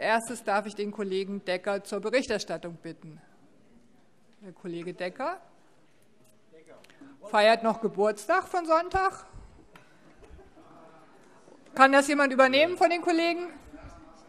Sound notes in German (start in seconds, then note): 10.0 Heiterkeit